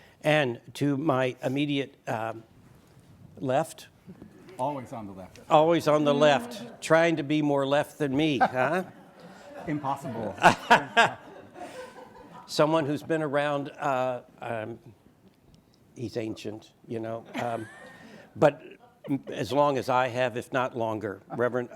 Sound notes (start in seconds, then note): 8.2 audience laughs; 10.0 laughing